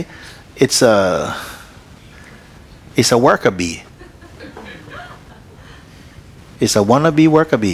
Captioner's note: laughter